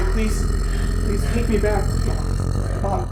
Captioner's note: Julia growling